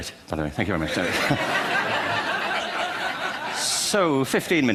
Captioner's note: laughter